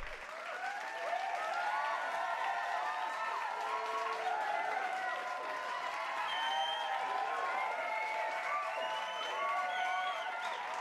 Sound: crowd cheering and clapping

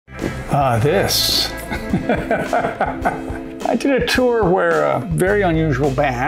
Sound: laughs

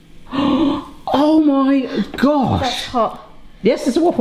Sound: gasps

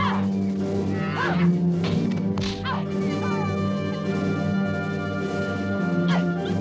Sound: grunting; hitting

